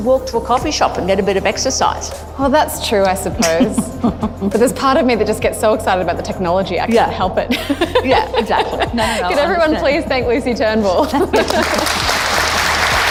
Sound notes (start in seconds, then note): 3.4 laughs; 7.4 laughs; 11.4 applause